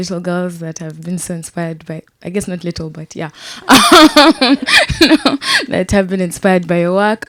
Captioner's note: laughs